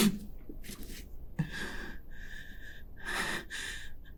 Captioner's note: Pete sniffs